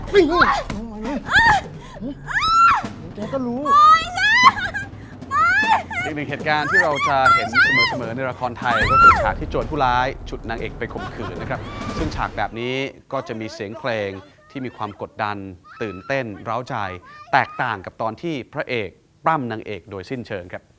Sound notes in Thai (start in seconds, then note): 0.0 ร้อง; 2.2 กรี๊ด; 10.8 หัวเราะ